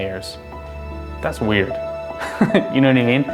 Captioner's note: laughs